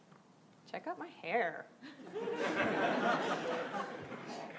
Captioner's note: laughing